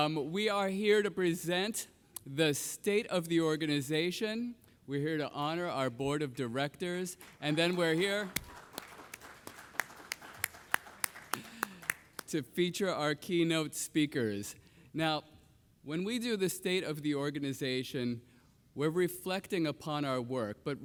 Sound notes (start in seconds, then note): 7.2 audience clapping; 7.2 claps